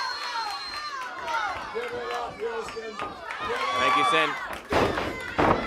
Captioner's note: crowd chatter